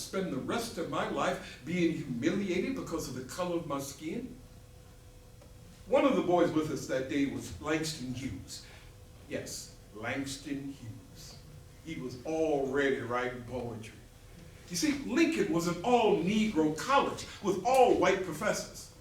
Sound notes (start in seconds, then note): none